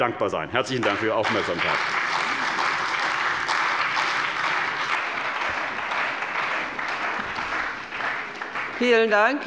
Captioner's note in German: Beifall bei der CDU und dem BÜNDNIS 90/DIE GRÜNEN